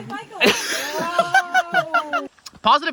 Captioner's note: laughing